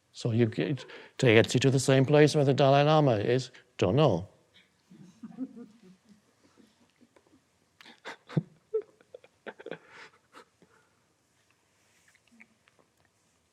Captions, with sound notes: So you take it the same place where the Dalai Lama is, "Don't know." (audience chuckling) (Eckhart laughing)